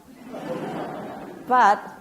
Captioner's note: audience laughs